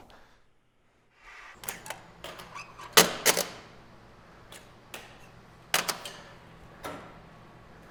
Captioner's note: mechanism squeaks and clicks